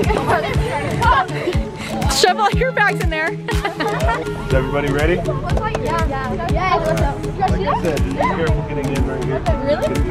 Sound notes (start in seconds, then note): 3.3 laughing